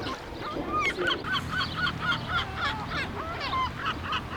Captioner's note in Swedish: skratt